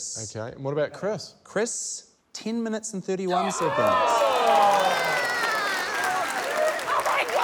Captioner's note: cheering, applause